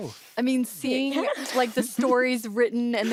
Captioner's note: laughs